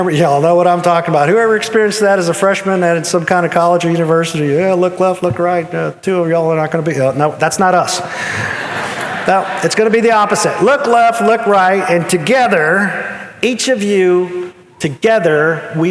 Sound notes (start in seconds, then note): 8.0 audience laughing